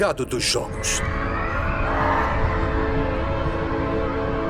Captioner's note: shouting, distorted